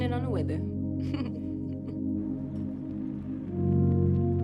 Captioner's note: laughs